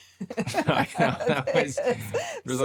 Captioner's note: both laughing